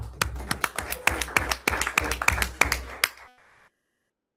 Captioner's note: everyone applauds